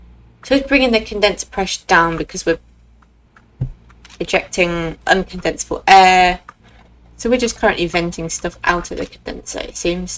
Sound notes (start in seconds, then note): none